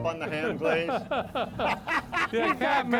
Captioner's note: loud laughing